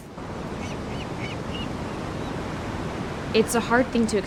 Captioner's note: sea gulls chirping